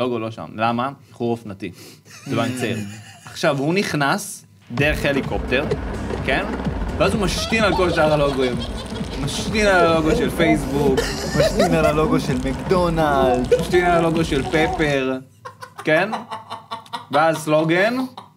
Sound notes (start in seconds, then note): 2.3 snickers; 10.8 laughs